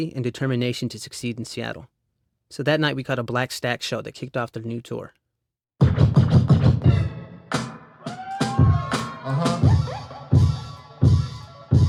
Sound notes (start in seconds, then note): 5.8 upbeat hip hop music; 5.8 record scratch; 8.0 crowd cheers